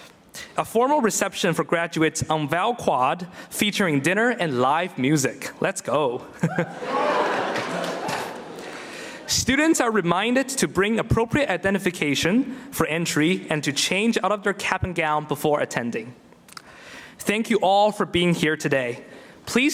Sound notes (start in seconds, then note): 6.4 laughs; 6.5 audience cheering